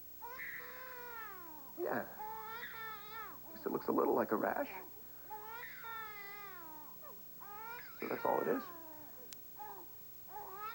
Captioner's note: starr cries